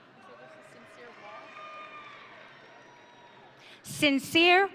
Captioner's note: audience cheering